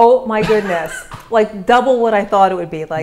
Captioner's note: laughter